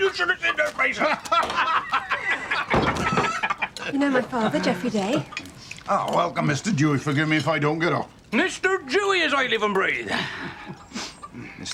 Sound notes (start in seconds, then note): 0.6 both laughing